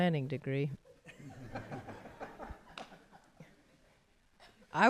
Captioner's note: laughter